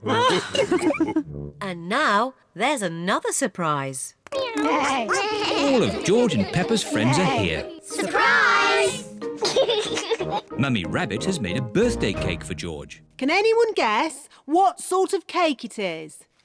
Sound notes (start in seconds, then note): 0.0 all laugh; 4.4 all making animal sounds; 9.4 laughs